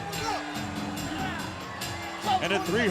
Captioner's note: referee loudly coaching